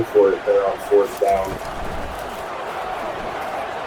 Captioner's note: crowd Noises